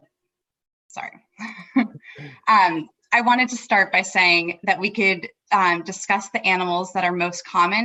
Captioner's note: both laugh